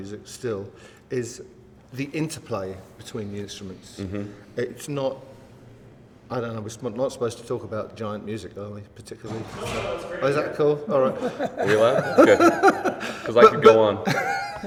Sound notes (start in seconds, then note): 10.8 laughs